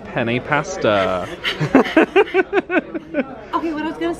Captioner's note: laughing; panting